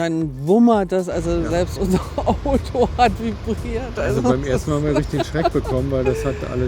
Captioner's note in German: gelächter